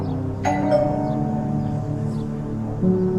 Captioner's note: doorbell